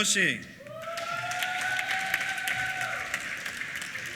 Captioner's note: applause